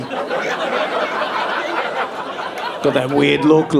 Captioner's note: audience laughing